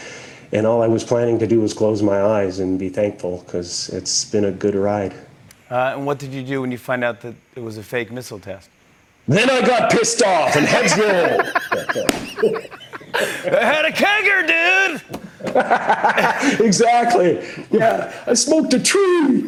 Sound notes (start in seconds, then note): 10.4 both laugh; 15.6 laughing